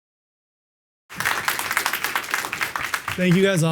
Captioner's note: applause